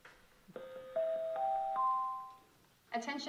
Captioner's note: ding, ding, ding, ding